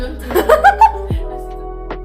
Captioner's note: laughter